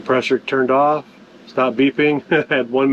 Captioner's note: laughs